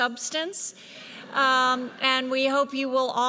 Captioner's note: audience laughs